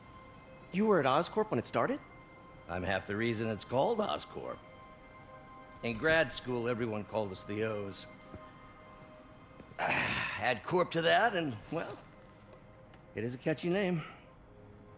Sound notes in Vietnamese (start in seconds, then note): 9.8 Thở dài